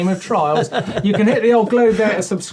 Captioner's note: laughing